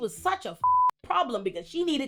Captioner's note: beep